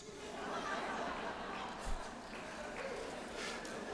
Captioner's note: laughter